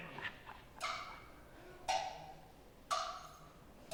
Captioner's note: clock ticking